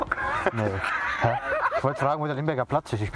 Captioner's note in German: Menschen lachen